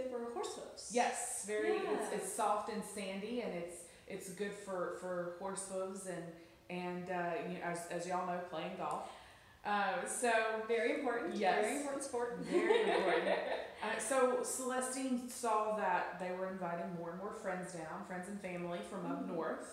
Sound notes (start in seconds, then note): 12.4 laughs